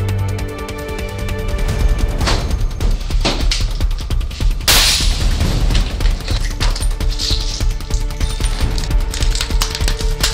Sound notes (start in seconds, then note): 2.3 glass breaking; 6.5 dramatic orchestral music